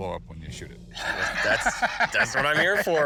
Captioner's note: laughing